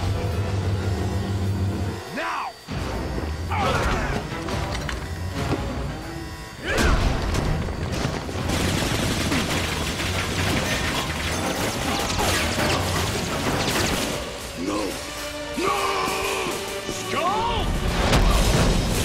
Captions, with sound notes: Now! [WINCING] [GUNFIRE] No. No! Skull!